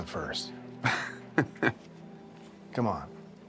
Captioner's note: buffalo bill chuckles